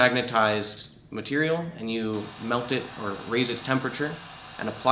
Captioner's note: sound of torch firing